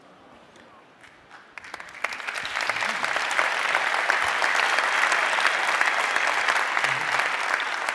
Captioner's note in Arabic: تصفيق